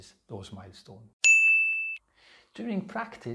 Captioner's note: pinging sound